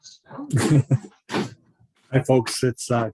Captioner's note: laughter